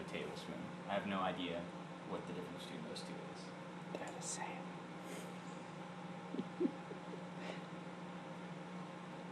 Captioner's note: cameraman whispering